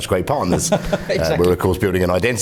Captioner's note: laughter